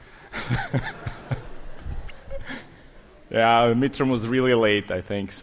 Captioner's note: laughing